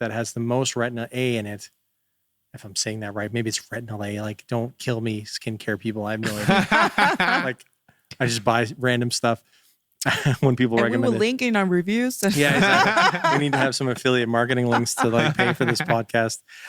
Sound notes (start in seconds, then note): 6.2 laughing; 12.2 all narrators laughing